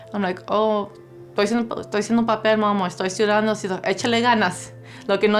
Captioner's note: speaking Spanish; speaking Spanish